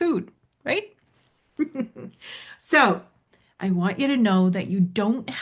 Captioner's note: laughs